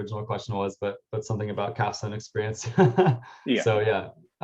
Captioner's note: laughs